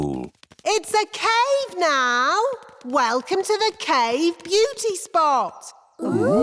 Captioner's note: echoing